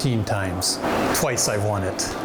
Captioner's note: atmosphere humming